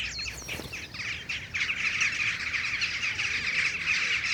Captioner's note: birds twittering